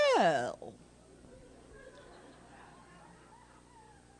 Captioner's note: laughter